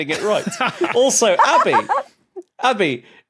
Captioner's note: laugh